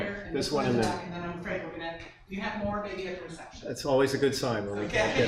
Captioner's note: participant speaks without a microphone